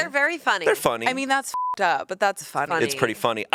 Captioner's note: beep